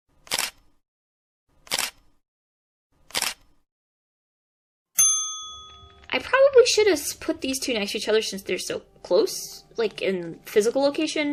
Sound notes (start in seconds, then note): 3.0 camera shutter sound effect